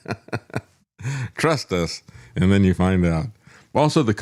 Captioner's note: laughs